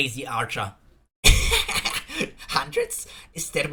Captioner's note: laugh